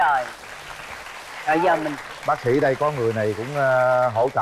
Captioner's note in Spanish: Aplaudir